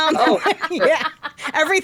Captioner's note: laughing